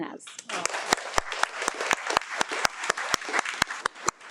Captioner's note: audience applauding